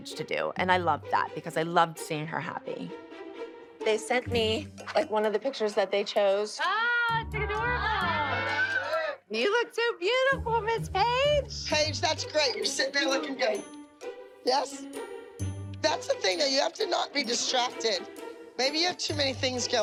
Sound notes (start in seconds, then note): 6.6 all exclaiming